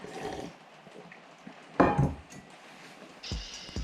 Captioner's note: slurping liquid